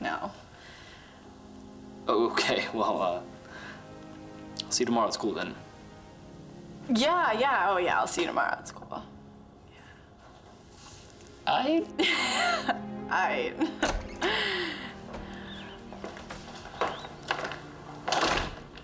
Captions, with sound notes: NO. OKAY, WELL, UH... SEE YOU TOMORROW AT SCHOOL THEN. YEAH, YEAH. OH, YEAH, I'LL SEE YOU TOMORROW AT SCHOOL...YEAH. A'IGHT. [laughs] A'IGHT.